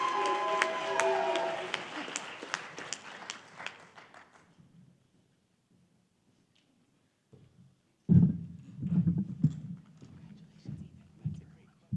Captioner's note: applause